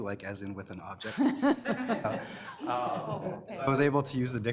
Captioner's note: all laughing